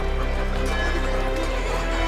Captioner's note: busy medieval town noises